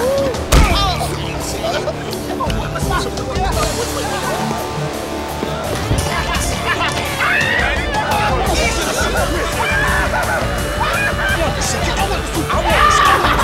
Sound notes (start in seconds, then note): 7.1 screaming; 8.1 arguing